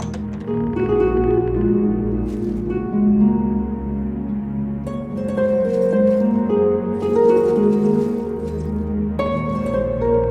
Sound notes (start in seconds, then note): 0.9 sound of door opening and rattling chains